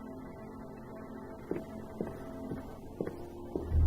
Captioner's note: footsteps